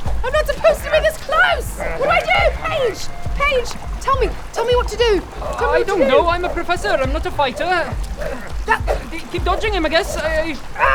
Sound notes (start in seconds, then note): 8.6 swish!